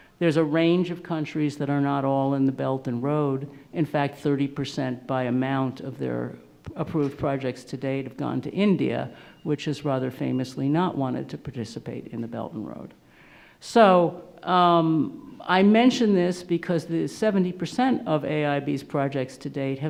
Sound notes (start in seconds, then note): none